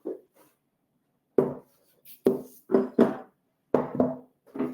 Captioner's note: platters clatter